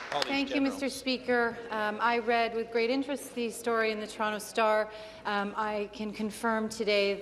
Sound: applause

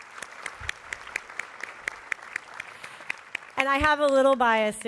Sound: applause

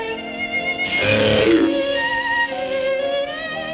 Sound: croaking

